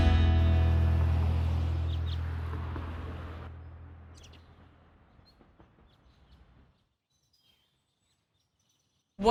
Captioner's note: birds chirping